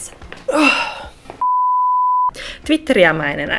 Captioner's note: beep